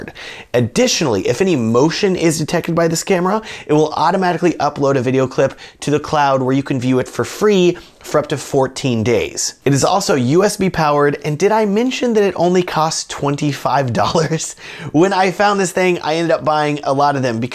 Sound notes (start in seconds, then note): 13.9 chuckles